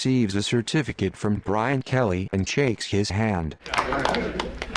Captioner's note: crowd applauds